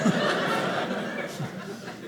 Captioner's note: audience laughing